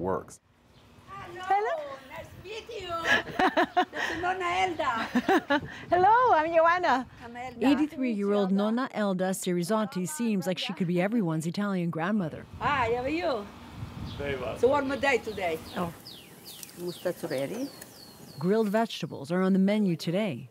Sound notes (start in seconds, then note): 3.0 laughter